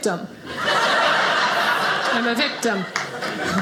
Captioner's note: audience laughing